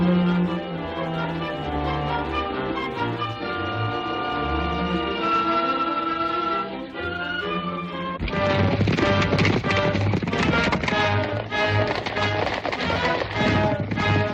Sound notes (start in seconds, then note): 8.2 hooves clomping; 8.3 dramatic music